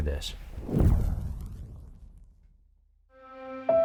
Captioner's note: air whooshes